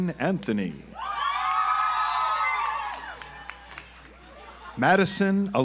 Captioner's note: audience applauds